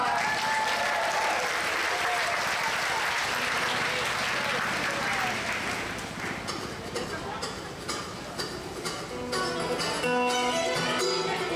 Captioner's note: audience applause; bluegrass music